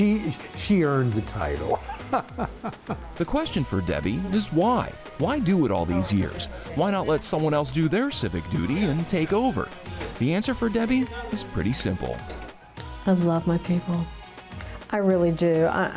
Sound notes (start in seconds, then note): 1.6 person laughing